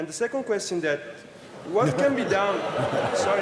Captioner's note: laughter